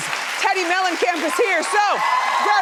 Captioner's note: audience cheering